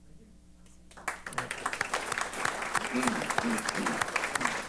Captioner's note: applause